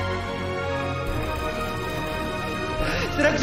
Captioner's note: camera shutters clicking